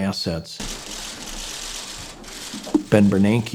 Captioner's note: book thudding; camera shutters clicking